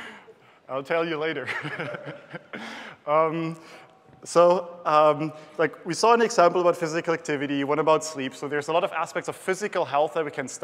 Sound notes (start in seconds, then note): 1.5 laughs